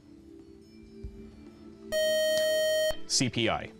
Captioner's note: time up buzzer